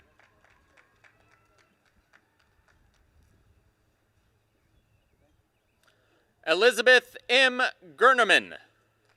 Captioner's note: applause; applause